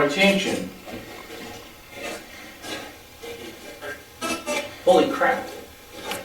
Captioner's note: static playback transmitting